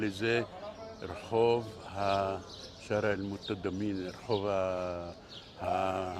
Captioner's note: Arabic